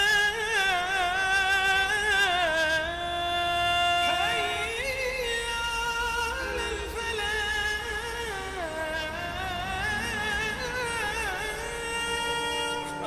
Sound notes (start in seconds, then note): 4.2 city traffic